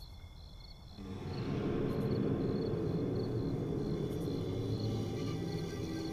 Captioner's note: car rumbles